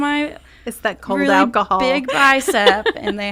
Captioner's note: laughing